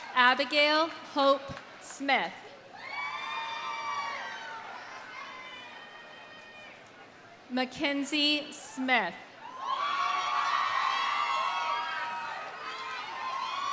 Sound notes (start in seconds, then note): 0.0 audience applauding; 0.0 audience cheering; 2.8 audience cheering; 3.3 audience applauding; 9.5 audience cheering